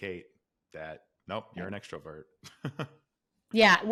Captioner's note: laughs